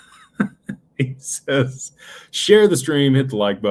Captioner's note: laughter